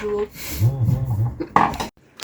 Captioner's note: laughing